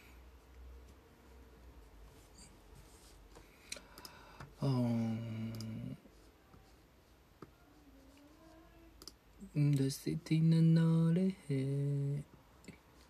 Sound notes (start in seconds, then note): 3.7 siGh; 8.5 sings